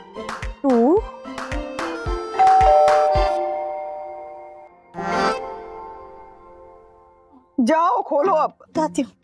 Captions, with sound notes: Two. [doorbell ringing] - Go and open the door. - Ok.